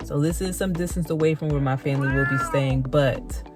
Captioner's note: meow